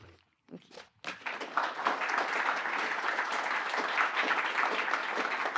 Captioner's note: applause